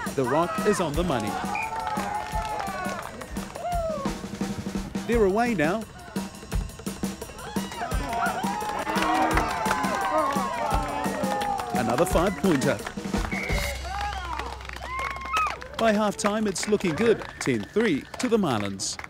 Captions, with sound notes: The rock is on the money. They're away now. [cheering] Another five-pointer. By halftime, it's looking good: 10-3 to the Marlins.